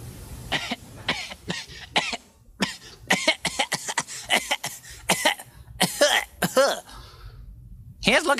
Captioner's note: coughing